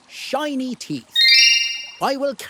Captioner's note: twinkle